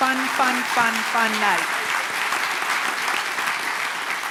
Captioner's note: applause